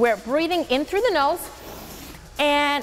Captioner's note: nasal inhaling